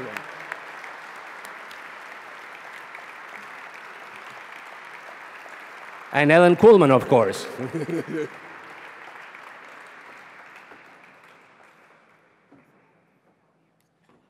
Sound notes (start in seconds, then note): 0.8 applause; 7.5 laugh; 7.6 applause